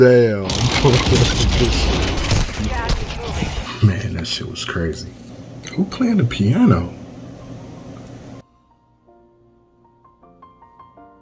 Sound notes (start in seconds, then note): 0.6 gunshots & laughing; 7.3 piano plays